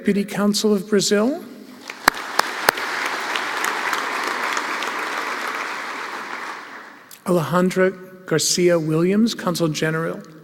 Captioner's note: applause